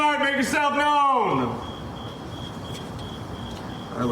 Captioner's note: crickets chirping